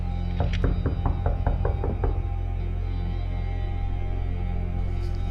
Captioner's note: knocking on the door